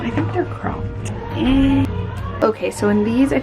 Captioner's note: groans